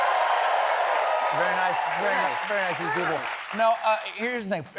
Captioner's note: applause